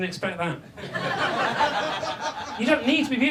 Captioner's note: audience laughs